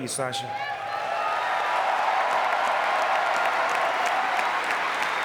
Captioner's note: audience clapping